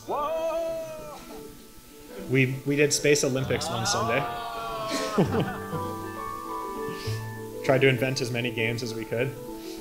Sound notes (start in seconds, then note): 3.5 crew cheering